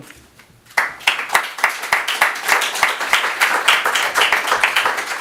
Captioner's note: audience applauds